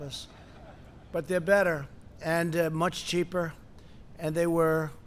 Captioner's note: laughter